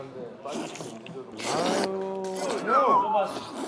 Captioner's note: slurping